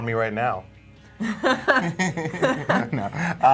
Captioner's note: laughing